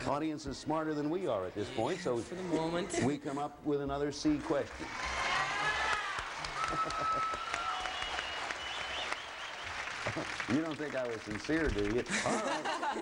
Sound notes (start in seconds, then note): 4.8 cheering